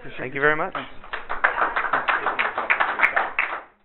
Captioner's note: audience applause